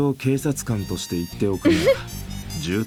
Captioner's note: chuckles